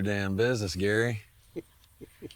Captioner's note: Gary laughs